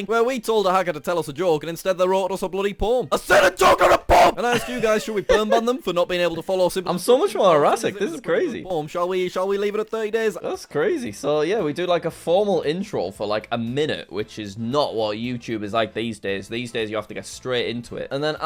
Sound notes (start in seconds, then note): 3.2 angry shouting